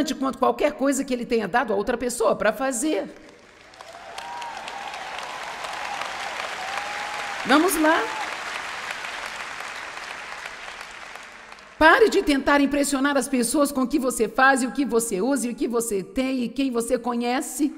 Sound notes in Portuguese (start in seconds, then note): 3.2 audiência aplaude